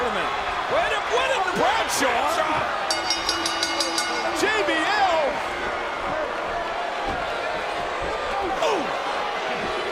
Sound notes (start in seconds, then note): 2.8 bell dinging